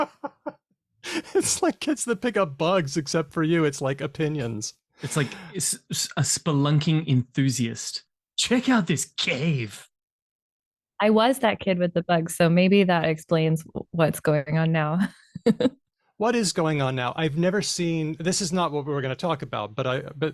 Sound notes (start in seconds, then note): 0.0 laughter; 15.3 laughs